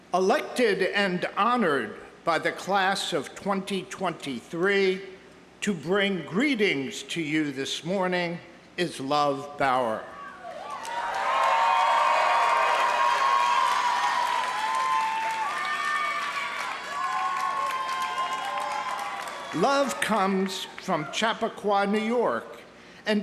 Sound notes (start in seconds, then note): 10.4 audience cheering; 10.6 audience applauding